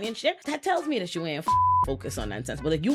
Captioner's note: beep